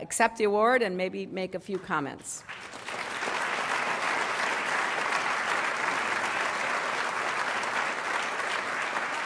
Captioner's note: applause